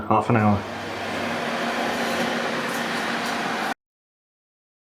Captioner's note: oven roar